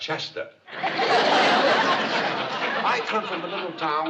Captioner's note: laughter